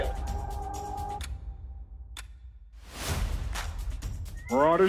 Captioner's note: clock ticking